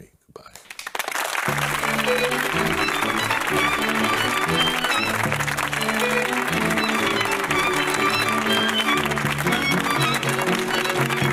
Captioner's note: applause over title music